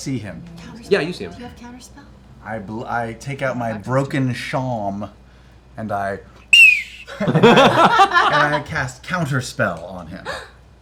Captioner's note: piercing whistle